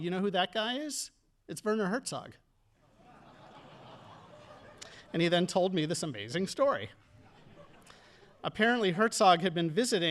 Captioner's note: audience laughing